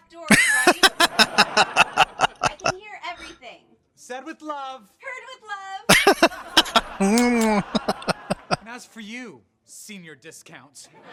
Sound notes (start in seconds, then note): 0.3 laughing; 5.9 laughing; 6.7 smooches